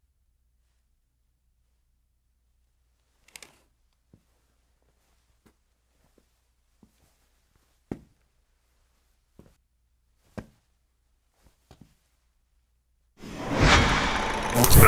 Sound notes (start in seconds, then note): none